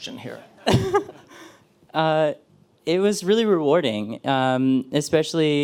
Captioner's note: laughs